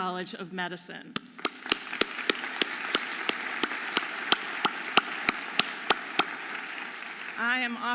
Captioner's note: audience applauding